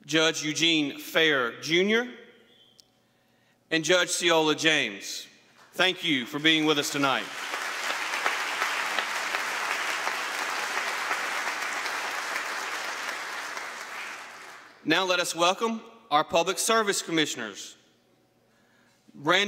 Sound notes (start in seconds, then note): 10.9 applause